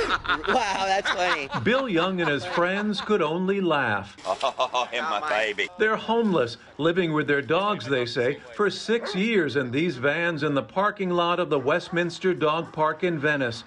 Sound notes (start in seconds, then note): 4.1 laughter